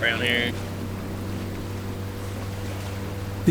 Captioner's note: boat engine revs